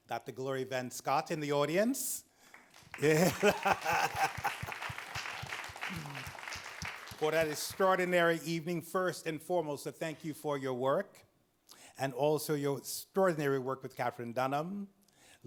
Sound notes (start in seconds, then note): 2.5 audience claps; 3.0 laughs